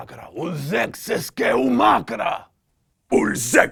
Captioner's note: alien sounds